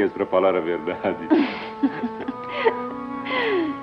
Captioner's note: chuckles